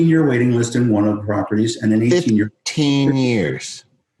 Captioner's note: murmurs